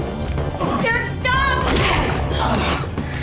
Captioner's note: grunts